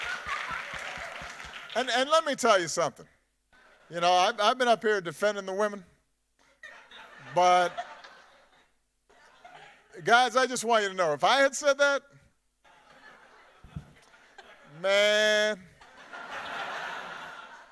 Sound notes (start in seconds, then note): 8.2 laughter